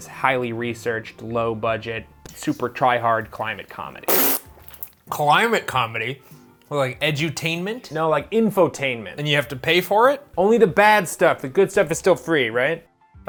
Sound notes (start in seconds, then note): 4.0 pffft